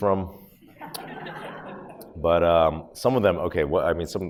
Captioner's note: audience laughs